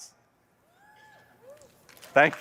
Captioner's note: applause